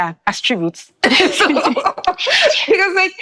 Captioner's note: laughing